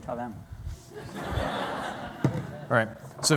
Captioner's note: laughter